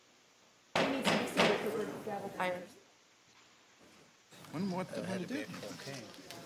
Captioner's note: gavel banging